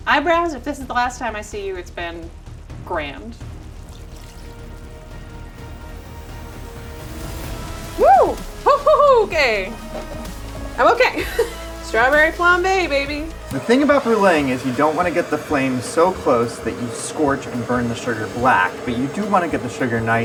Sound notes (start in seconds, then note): 4.0 cognac splashing; 4.8 dramatic music